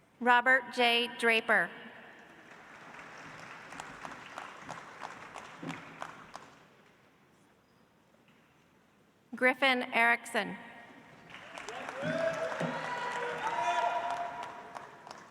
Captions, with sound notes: Robert J. Draper. (audience applauds) Griffin Erickson. (audience applauds)